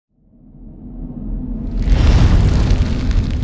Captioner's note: whooshing